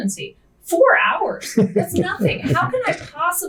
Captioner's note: laughing